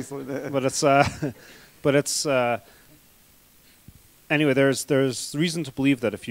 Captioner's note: laughter